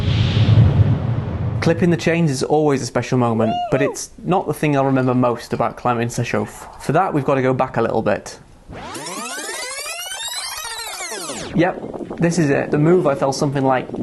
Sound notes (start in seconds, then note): 8.6 rewind noise